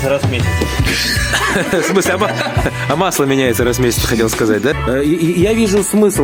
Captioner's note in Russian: смеются